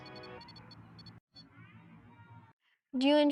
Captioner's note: REM-Pod silence; kids and playground noise in background